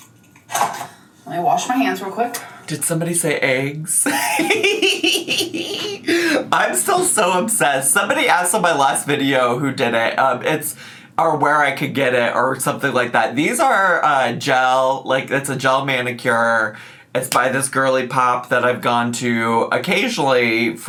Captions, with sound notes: Let me wash my hands real quick. - Did somebody say eggs? (laughs) I'm still so obsessed. Somebody asked on my last video who did it, or where I could get it or something like that. These are gel, like it's a gel manicure. It's by this girly pop that I've gone to occasionally